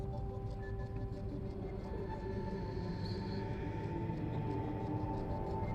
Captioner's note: echoing voice speaking